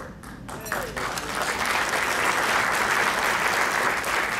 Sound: crowd clapping

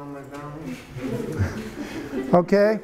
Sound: students laugh

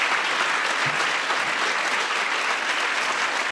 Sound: applause

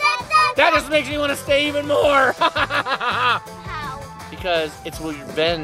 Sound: evil laughing

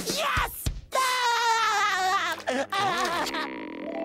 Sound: laughing

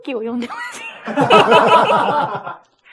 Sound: laughs

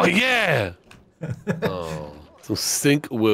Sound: laughing

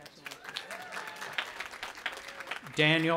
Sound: audience applauding

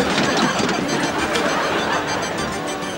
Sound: clattering

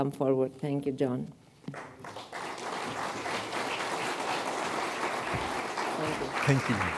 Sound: applause

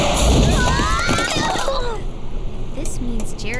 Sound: screams

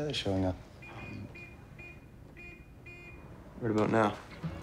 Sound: horn honking

